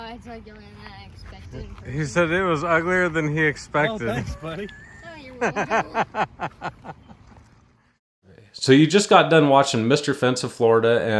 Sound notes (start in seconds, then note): 6.2 laughing